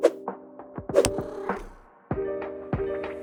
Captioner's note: cat purrs